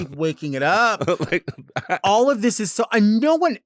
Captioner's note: laughs